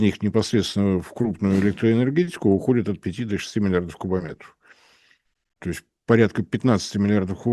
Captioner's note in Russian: откашливается